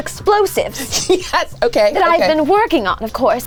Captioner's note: laughing